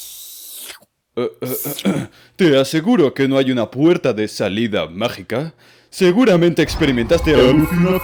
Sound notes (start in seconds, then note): 1.2 clears throat